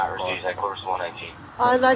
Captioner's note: radio chatter